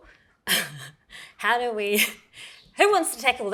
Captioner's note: chuckles